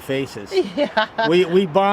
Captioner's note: laughs